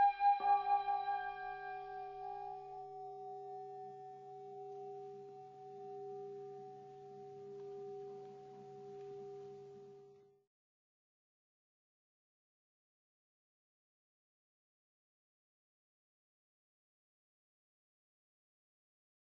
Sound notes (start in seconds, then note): 5.1 ♫ gong